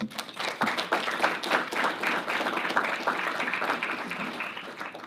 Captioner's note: audience applauding